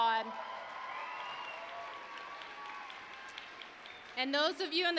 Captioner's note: applause, cheering